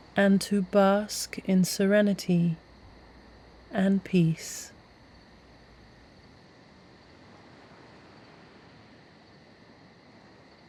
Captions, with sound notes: and to bask in serenity and peace. (nighttime ambience)